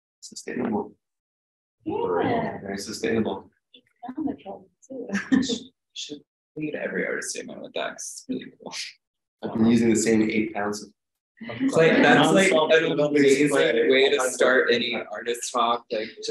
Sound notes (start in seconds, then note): 0.0 chuckles; 5.1 chuckles